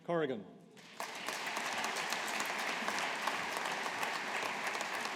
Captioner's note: audience applauding